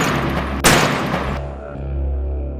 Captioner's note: gun Shot; gun Shots